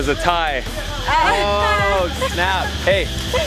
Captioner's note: laughing